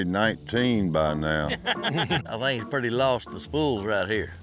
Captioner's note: laugh